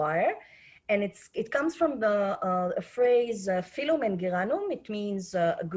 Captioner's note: speaking Hebrew